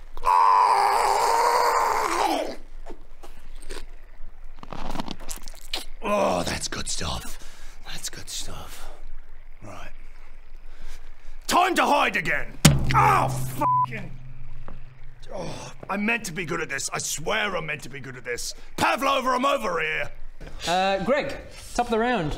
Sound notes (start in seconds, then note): 4.5 surprisingly harmless crunching noises; 12.6 bang